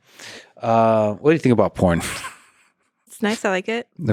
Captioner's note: laughs